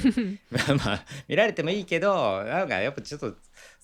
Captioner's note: laughs